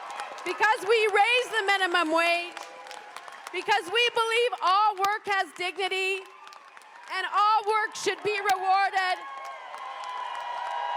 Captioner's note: cheers and applause